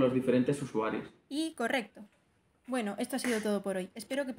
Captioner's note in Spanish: Voz en off